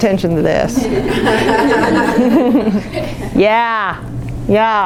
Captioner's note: laughing